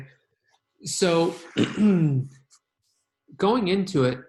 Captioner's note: clears throat